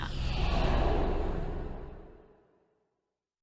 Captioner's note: air whooshing